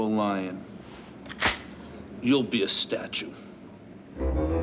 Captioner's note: gun clicks